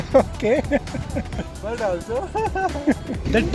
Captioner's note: laughing; laughs